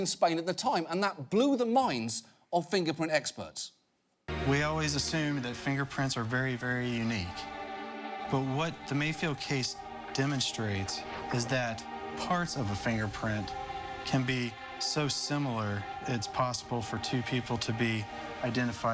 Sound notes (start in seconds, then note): none